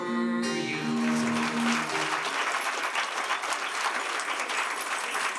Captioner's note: applause